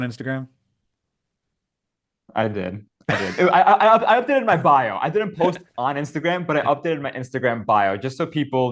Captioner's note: Hank laughs